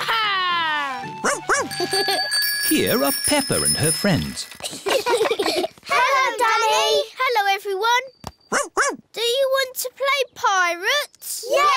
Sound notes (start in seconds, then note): 1.3 giggles; 4.6 all giggling